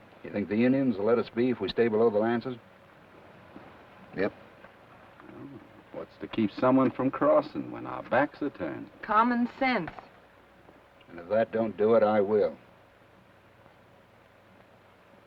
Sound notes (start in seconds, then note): none